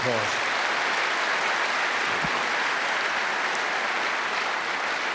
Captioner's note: applause